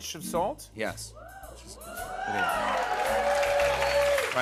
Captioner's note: cheers and applause